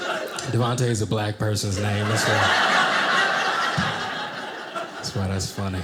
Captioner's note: audience laughing